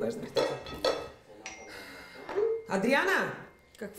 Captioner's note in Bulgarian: въздиша